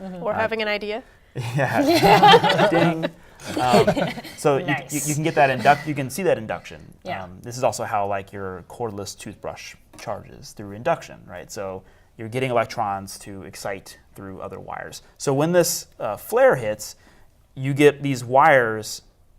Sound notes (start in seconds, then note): 1.5 laughter